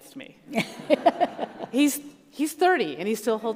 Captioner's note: all laugh